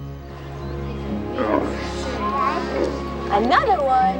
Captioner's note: grunting